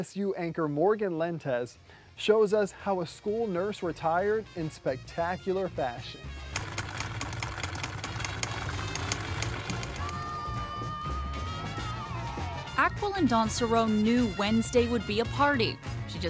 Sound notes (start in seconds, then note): 6.5 machine whirring; 6.6 upbeat music